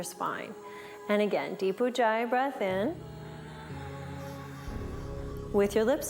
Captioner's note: breathes